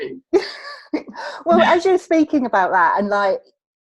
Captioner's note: laughs